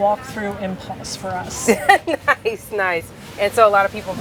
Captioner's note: laughs